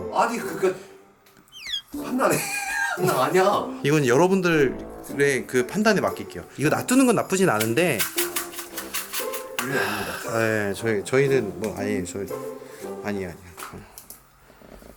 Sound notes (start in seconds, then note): 8.2 clatter; 10.2 stutter